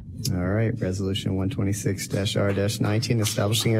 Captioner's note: attendees clapping